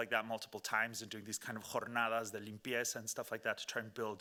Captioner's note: speaking Spanish